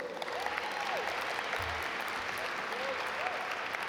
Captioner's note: audience applaud